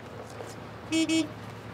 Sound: horn beeps

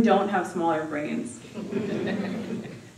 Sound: laughter

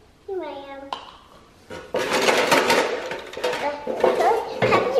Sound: clatter

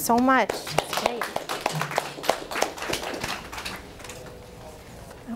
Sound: audience applause

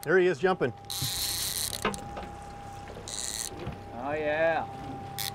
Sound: reel spinning

